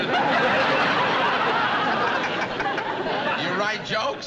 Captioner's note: laughs